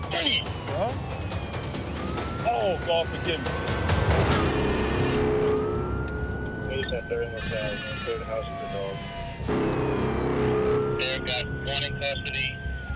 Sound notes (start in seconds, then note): 4.2 radio chirps; 4.2 suspenseful music playing